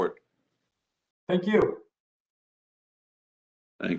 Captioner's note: A pause